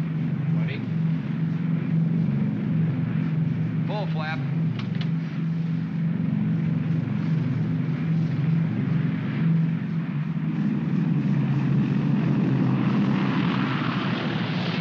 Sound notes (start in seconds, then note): 1.9 aircraft rumbles; 4.3 switches click; 5.2 aircraft rumbles